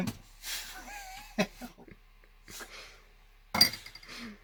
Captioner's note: laughs